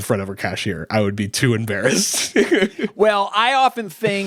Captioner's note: laughing